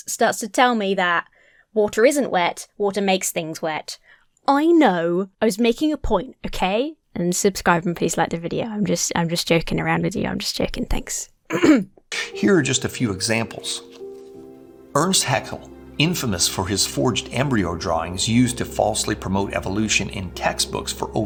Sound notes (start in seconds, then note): 11.5 clears throat